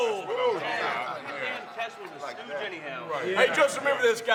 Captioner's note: group chattering